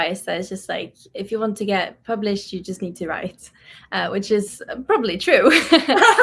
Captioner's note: laughs